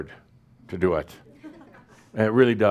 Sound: a few chuckles

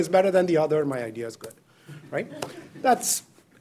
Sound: students laughing softly

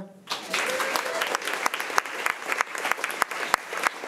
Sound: crowd clapping

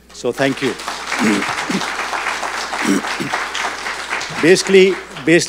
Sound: audience applauding

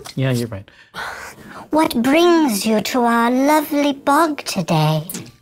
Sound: tiny Voice

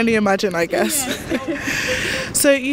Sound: both chuckle

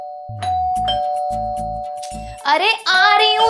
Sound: door Bell Ringing

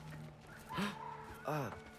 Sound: gasp

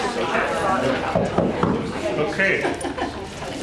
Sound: knocks

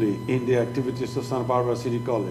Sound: speaking foreign language

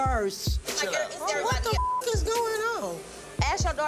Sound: beep

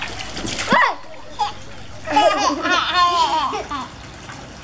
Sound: laugh Voice

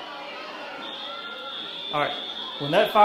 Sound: fire alarm blaring

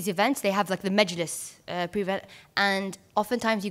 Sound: foreign language

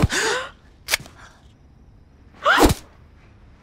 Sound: both gasp; whack

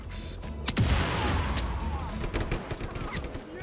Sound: vehicle exploding; gun fighting

